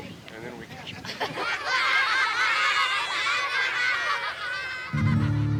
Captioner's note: children laughing